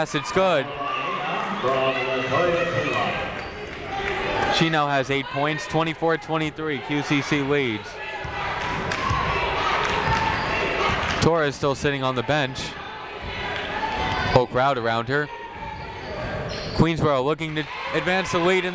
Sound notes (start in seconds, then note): 8.4 people chanting in the crowd